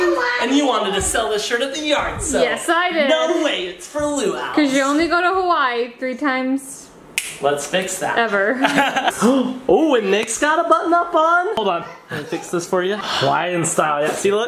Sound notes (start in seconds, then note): 7.2 snaps; 8.5 laughs; 10.3 gasps